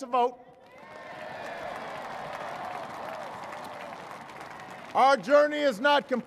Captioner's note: cheers and applause